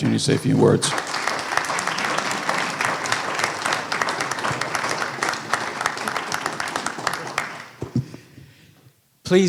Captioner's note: applause